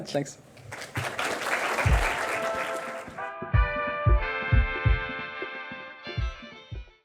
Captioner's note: audience claps; gentle upbeat music